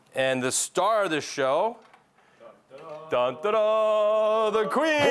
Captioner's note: imitating fanfare